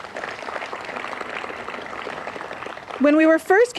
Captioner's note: applause